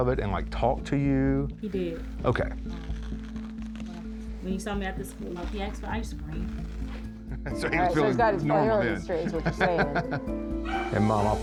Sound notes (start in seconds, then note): 9.0 laughing